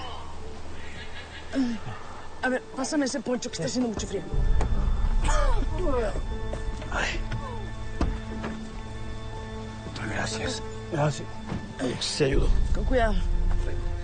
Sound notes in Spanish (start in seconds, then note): 5.0 Jonathan tosiendo